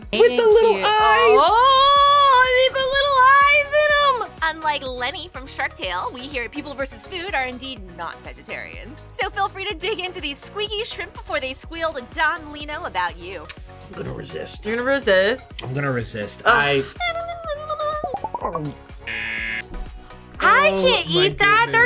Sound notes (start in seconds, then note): 17.3 whimpers; 19.0 buzzer